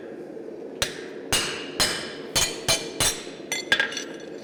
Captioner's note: sharp metallic hammering